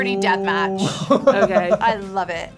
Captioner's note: laughing